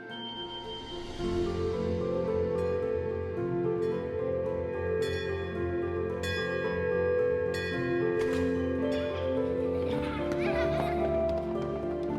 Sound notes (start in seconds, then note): 1.6 bell ringing; 1.6 upbeat music continues; 9.1 children giggle